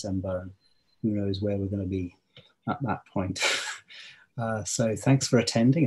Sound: laughs

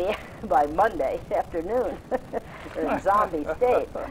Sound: laughs

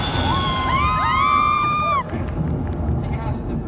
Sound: audience screams

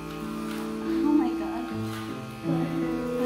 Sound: whispering

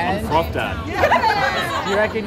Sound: laughter

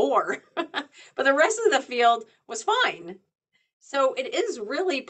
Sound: chuckles

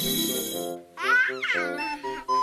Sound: baby laugh

